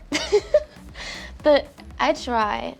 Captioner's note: laughs